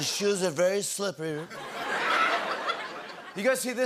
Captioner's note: laughter